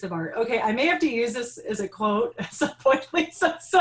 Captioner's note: laughing